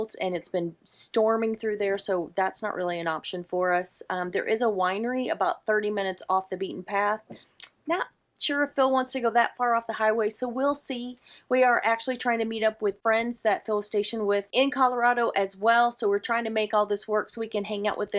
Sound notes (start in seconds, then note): none